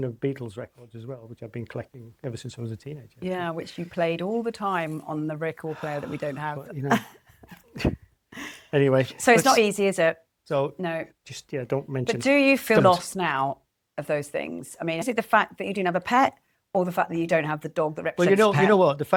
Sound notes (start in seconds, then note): 5.6 laughs